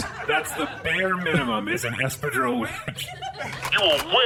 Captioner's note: SFX: A CLINT racking his blaster